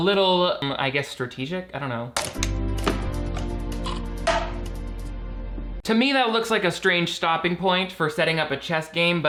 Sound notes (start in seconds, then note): 2.2 chess piece clacks; 2.3 light music